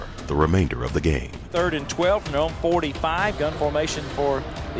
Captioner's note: voiceover